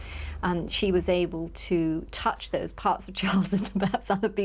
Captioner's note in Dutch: lacht